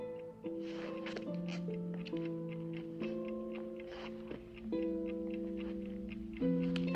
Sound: soft, gentle music; clock ticks

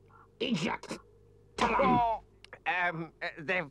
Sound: hand smacks

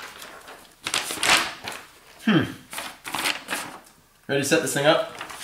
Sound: paper crinkling

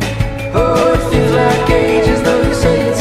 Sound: terrified

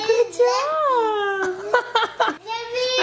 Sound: laughs

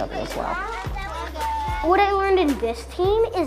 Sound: children chatter

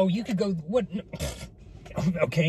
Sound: blows raspberry

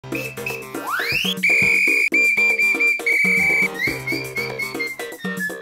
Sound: upbeat music; whistles

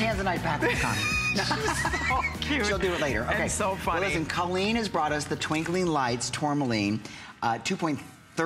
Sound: laughter

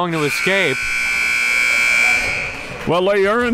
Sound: klaxon sounds

